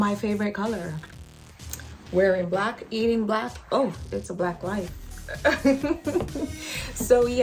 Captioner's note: laughs